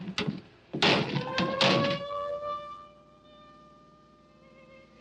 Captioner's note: doors slamming; siren wailing; soft orchestral music